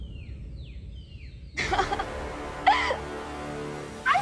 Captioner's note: laughs